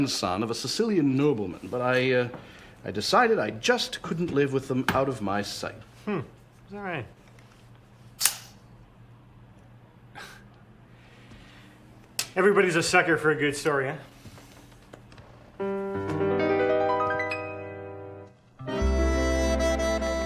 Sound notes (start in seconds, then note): 8.2 click